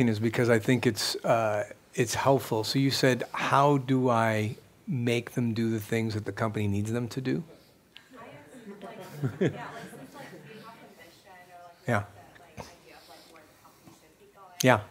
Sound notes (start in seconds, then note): 8.4 laughs; 10.1 voiceover